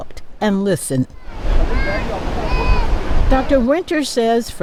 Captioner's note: rushing water from waterfall